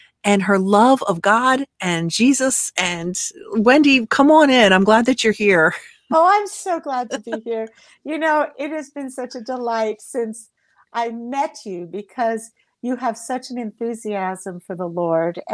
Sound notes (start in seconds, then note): 7.1 laughing